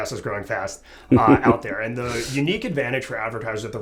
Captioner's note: laugh